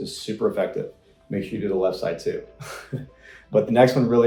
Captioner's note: laughs